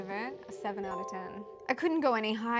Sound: chime

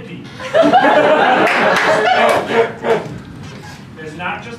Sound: laughter

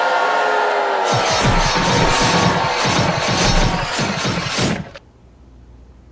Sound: audience boos; myriad of guillotines chopping

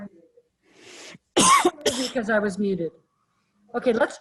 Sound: coughs

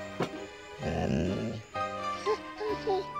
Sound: growling

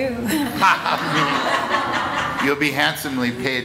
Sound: laughter

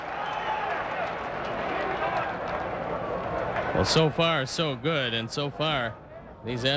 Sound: crowd cheering

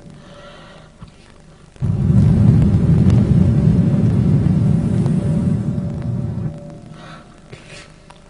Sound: blows into the microphone

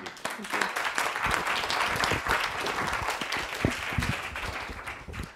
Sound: applause

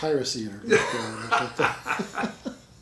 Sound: laughing; laughs

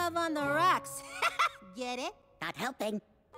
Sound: laughs

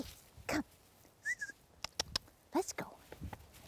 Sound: whistles

